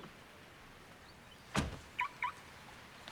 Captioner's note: car alarm chirps